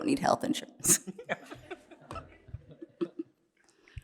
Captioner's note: laughter